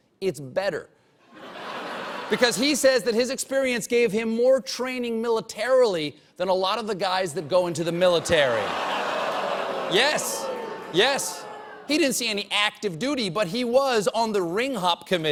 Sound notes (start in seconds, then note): 1.2 laughter; 7.2 audience reacts